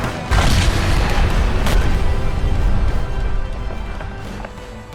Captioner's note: explosion bangs